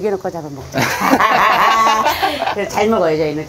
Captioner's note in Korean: 웃음